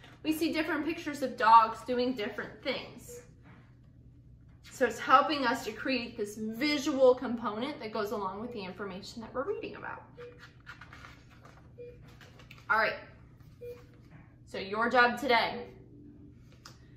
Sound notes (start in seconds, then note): 10.1 beeping